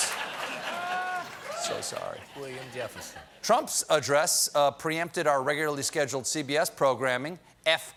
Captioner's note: laughter